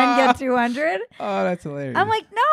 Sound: laughing

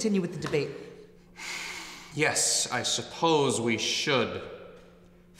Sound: exhales

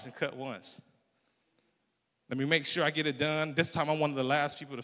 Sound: none

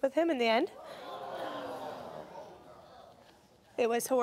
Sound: audience gasping

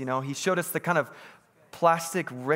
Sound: none

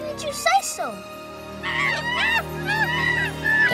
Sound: chattering

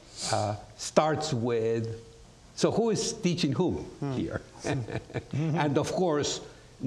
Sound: chuckles

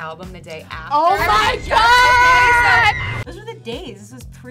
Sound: screams in horror

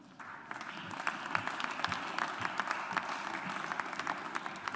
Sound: audience applauds

